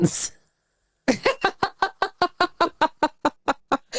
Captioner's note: laughing